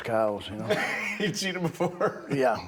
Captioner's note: laughing